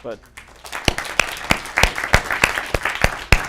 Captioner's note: applause